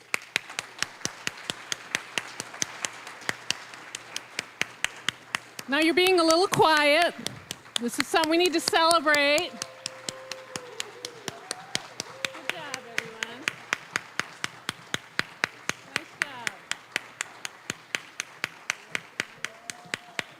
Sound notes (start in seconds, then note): 0.2 applause; 9.9 cheering, applause; 14.5 applause; 18.0 applause